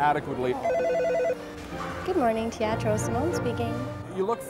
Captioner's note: phone rings